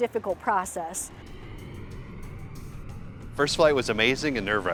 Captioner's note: airplane whooshing